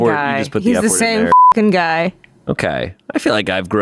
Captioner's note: beep